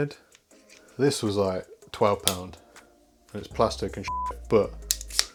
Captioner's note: beep